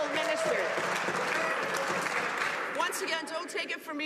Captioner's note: some Applause